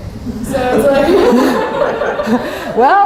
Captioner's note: laughter